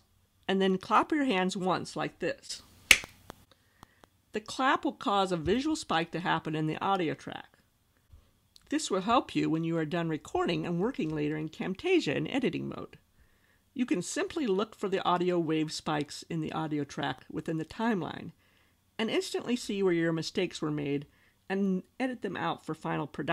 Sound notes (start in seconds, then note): 2.9 hand clap